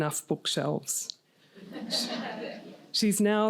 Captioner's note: laughter